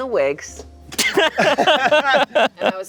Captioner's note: everyone laughing